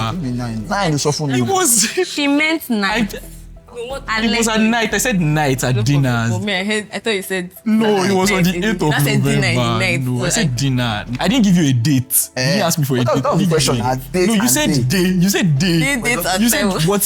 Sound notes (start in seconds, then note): 0.7 laughs